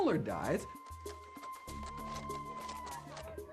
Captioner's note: speaking native language